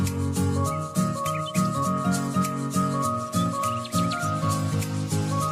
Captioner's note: birds chirping